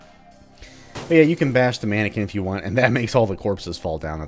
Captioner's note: chuckles